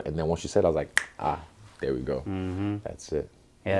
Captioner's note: snap